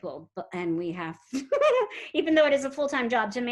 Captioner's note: giggles